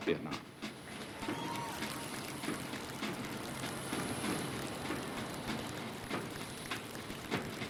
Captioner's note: cheers and applause